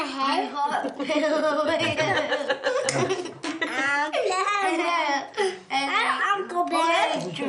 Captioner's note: family laughing